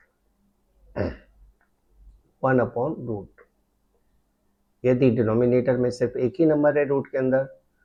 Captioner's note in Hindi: गला साफ़ करने की आवाज़